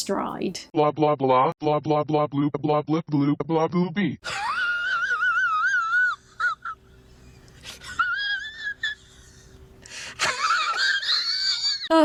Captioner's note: Laughs over Greta comeback Tweet